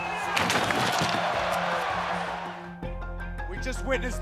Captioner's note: audience shouting